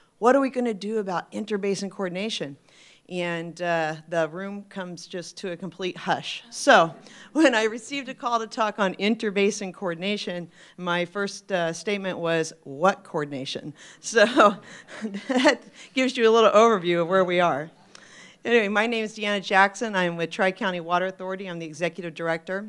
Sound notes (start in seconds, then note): 14.6 laughs